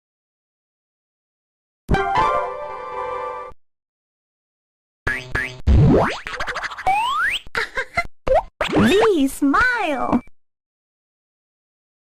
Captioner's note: Italian